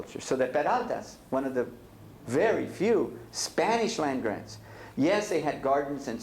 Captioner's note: spanish